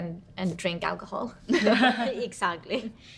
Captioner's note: women laugh